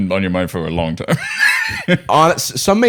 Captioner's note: laughs